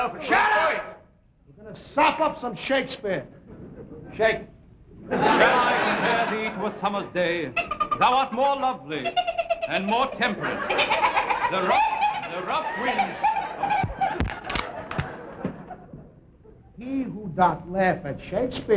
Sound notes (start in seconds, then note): 9.0 giggling; 11.0 giggling